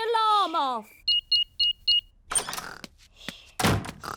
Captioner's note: beeping